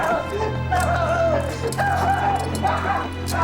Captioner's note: screaming